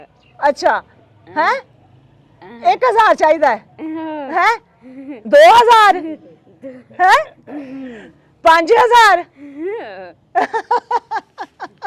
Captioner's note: giggling